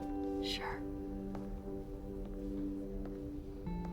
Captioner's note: footsteps depart